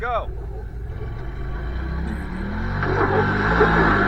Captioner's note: engine revving